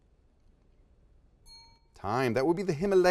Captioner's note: dings